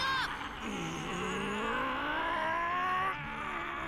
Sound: grunting

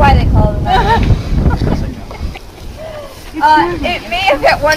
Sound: laughing

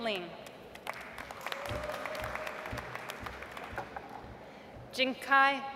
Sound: audience applauds

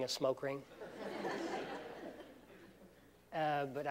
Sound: laughter

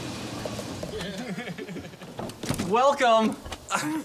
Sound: laughter

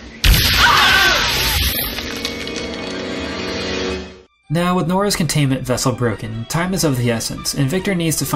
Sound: screams

